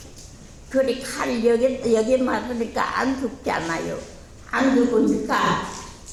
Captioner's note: speaking in foreign language